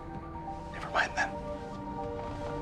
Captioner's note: whispering